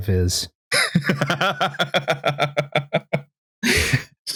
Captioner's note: laughs